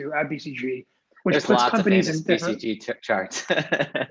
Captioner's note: chuckles